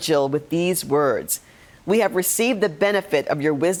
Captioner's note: none